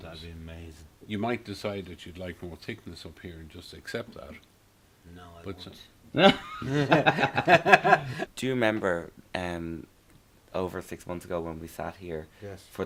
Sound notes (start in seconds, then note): 6.2 laughs